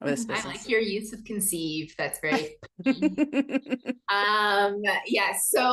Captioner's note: both chuckle